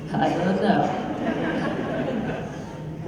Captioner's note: laughter